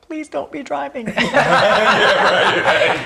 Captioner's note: laughing